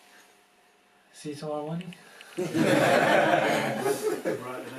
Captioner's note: laughter